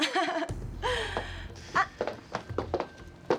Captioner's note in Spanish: Risas